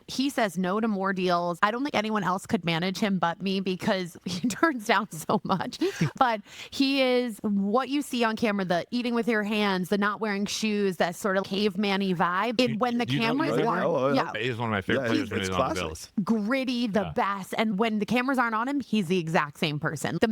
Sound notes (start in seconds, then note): 5.8 laughing